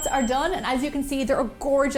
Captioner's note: ding!